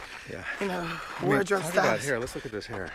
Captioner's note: overlapping chatter